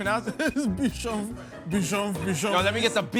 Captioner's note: laughing